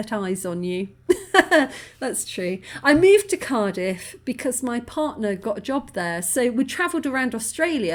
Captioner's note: laughing